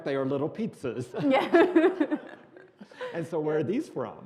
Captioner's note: laughing